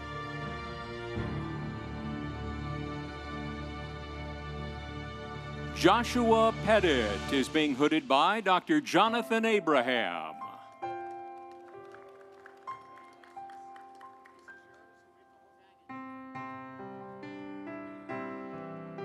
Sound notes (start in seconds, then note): 11.1 audience applauding; 11.1 instrumental music